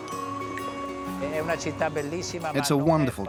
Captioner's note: Italian spoken audio